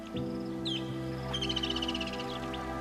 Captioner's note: birds chirping; animals calling